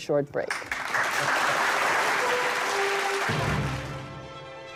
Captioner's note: applause